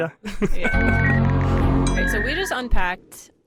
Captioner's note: overlapping technological sounds